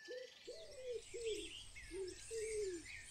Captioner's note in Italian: Suoni della natura